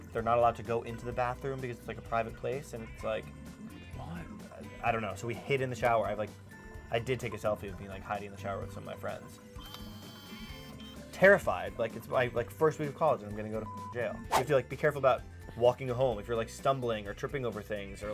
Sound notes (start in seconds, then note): 13.7 beep